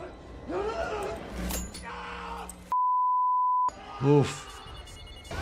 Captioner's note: victim screaming